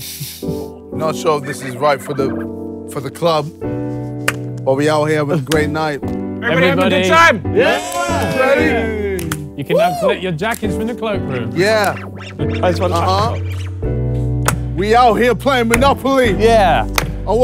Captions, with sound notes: Not sure if this is right for the, for the club. Are we out here havin' a great night? - Everybody having a good time? [all cheer] - Yes. Ready? - You can now put your jackets from the cloak room. - Yeah. Uh-huh. We out here playing Monopoly. - Yeah!